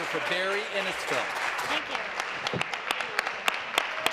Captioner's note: applause